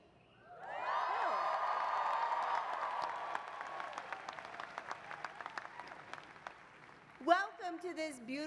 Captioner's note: applause